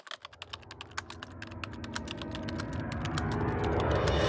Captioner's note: typing sounds